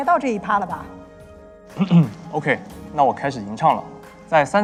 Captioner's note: cough